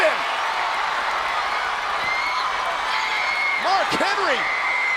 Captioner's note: crowd screaming